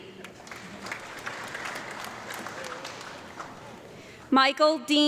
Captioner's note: audience clapping